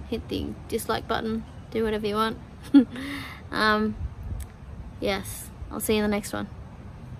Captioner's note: chuckles